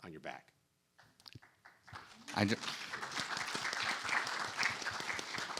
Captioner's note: audience applauding